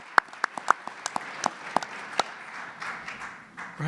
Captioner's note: applause